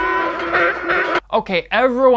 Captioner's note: Tuscan raider shout intensifies